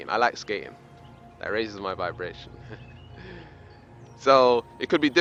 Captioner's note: laughs